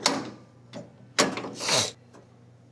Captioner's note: sniff